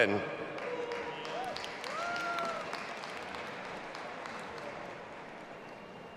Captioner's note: audience applauding and cheering